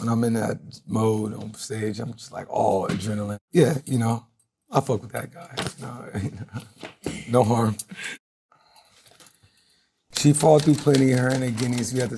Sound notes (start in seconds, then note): 6.1 chuckles